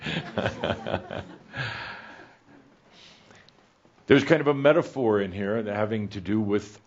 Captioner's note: Adamus chuckles